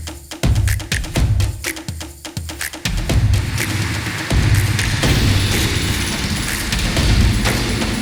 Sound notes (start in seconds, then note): 3.6 applause